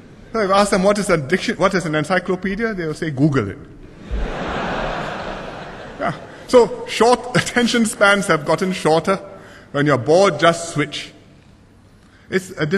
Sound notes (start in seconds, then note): 3.9 laughter